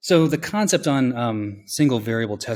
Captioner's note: none